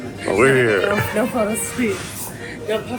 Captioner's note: lively music; laughs